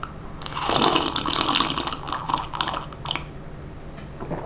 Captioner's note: slurps Coffee Obnoxiously